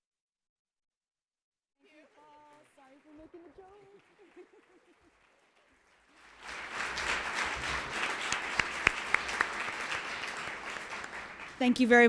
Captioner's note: applause